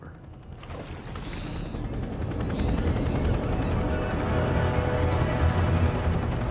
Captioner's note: helicopter whirring; water sloshing; ominous music